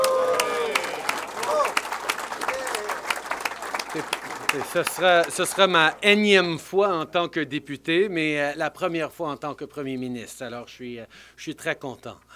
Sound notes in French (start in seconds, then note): 2.8 Applaudissements